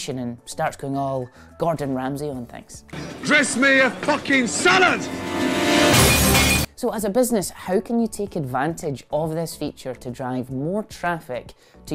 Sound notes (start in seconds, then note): 5.3 plates smashing